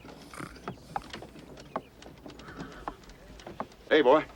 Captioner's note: man snoring